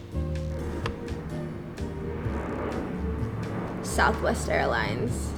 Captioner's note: airplane engine